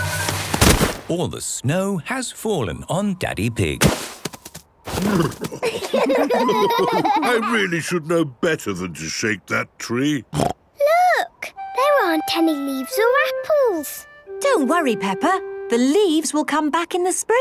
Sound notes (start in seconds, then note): 5.5 laughter; 9.7 snorting